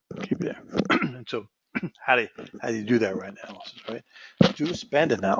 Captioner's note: cough